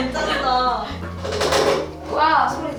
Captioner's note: clear sound of carving